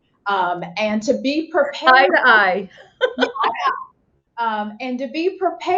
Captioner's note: laughs